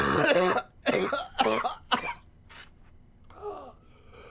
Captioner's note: chokes and burps